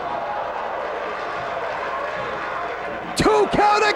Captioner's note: spectators exclaiming; spectators cheering and applauding